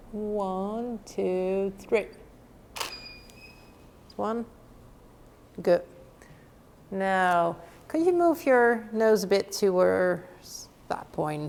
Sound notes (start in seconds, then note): 2.8 shutter clicking